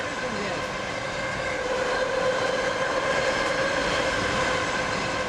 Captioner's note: bart train passing